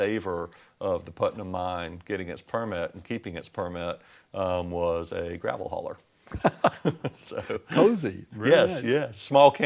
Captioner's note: sounds of laughter